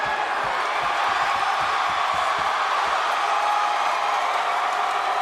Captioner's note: audience applauds and cheers